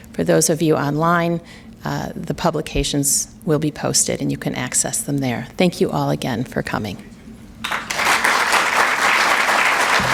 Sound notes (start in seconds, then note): 7.6 applause